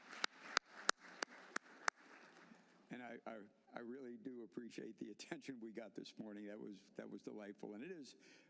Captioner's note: applause